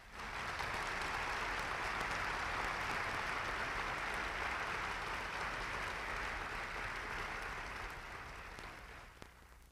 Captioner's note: applause